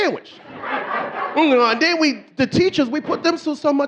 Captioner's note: audience laughing